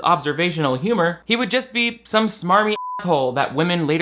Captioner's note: beep